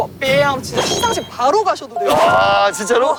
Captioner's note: jingle-jangle